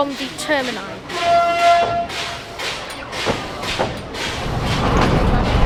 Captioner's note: sound of train horn